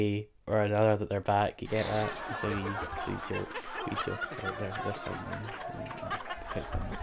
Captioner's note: canned studio laughter